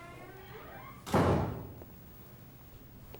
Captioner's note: door thuds